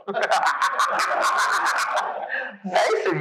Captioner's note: laughing